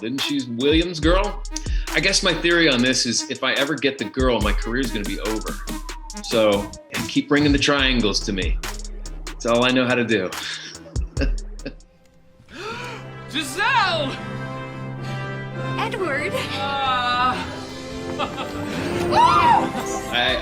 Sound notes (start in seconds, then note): 10.3 laughs; 12.5 gasps; 18.2 laughs; 19.1 gasps